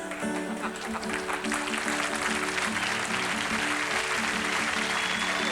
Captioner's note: applause; laughter